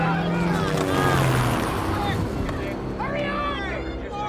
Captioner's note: helicopter whirring